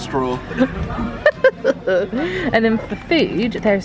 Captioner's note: laughs